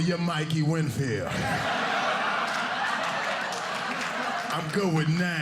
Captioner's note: audience laughing